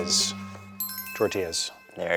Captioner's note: bell chiming